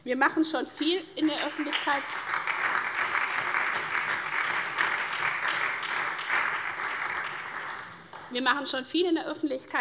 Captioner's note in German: Beifall SPD, vereinzelt AfD und DIE LINKE